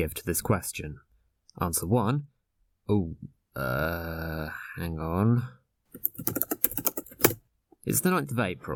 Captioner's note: typing sounds